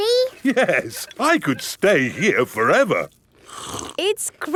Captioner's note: slurps